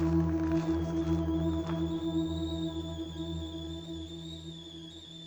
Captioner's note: kettle whistles